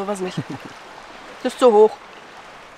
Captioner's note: laughter